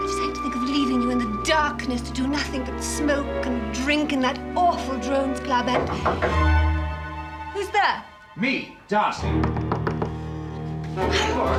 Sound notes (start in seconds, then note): 5.6 knocking